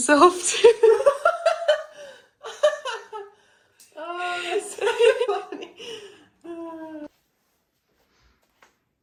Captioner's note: laughter